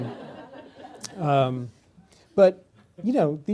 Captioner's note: laughter